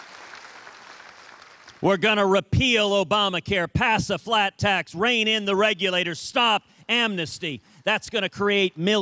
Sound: cheers and applause

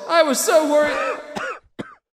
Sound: someone coughing

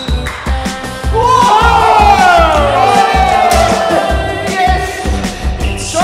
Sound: players cheering

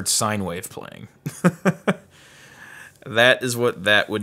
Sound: laughs

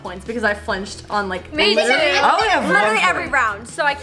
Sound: yelling

